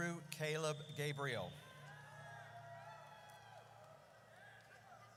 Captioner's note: audience cheers